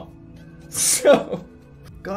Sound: laugh

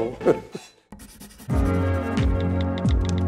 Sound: laughs

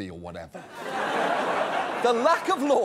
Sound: audience laughs

